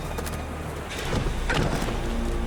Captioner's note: thud